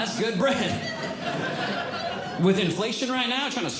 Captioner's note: audience Laughing